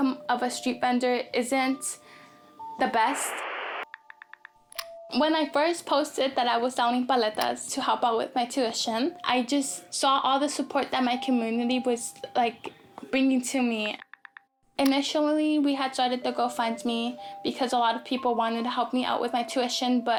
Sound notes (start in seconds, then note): 2.8 television distortion noise; 3.8 phone clicking